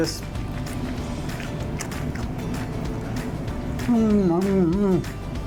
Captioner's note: crunching